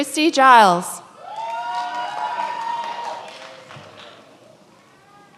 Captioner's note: many applauding